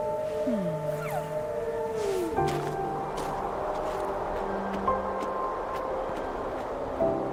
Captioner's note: creature cooing